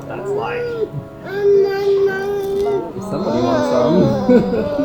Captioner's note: baby grumbles